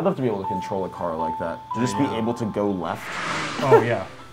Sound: car zooms

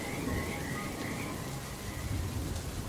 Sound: thunder rumbling

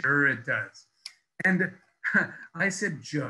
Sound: laughs

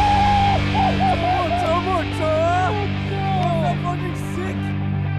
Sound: base jumpers cheering

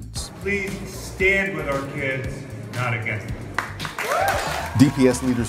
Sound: applause

